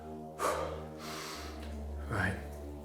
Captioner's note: man sighs